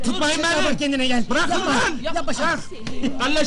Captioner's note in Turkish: gülerler